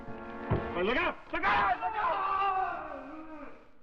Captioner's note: Freddie yells